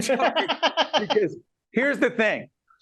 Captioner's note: laughing